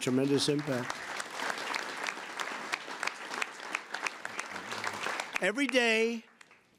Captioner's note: applause